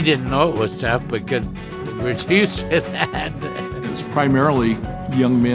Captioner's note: laughs